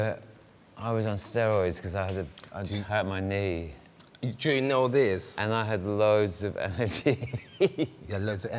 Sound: laughs

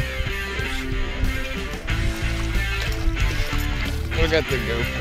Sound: water splashing; lure blades clinking

